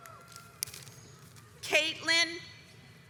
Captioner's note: audience cheers